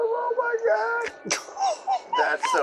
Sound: laughing

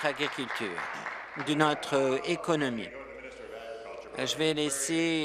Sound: applause

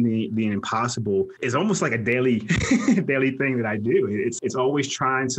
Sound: laughs

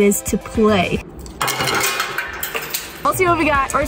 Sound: sugar shatters

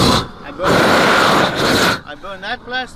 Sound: air whooshes against plastic

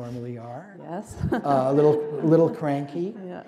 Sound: laughter

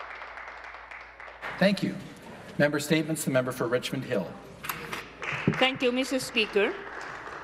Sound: some Applause

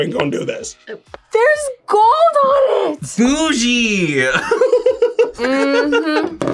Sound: laughs

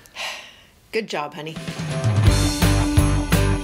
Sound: sighs; upbeat music

